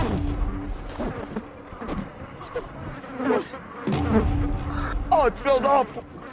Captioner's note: flies buzzing